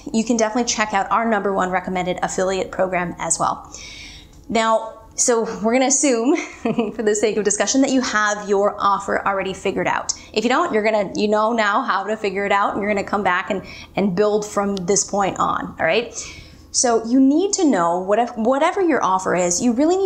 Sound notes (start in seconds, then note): 6.4 chuckles